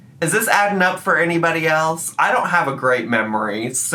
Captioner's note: none